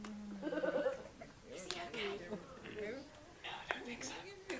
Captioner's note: whispering